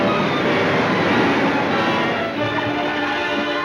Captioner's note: water rushing